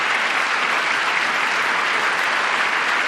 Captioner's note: applause